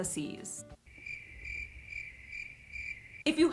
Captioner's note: crickets